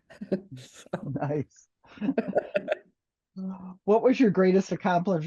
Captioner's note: laughing